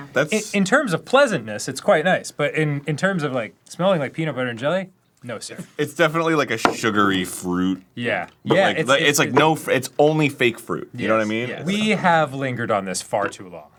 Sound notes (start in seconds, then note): none